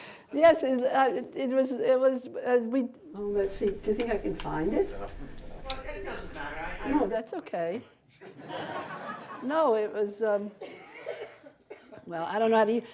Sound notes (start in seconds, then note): 8.2 audience laughter